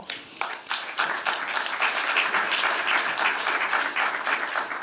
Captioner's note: applause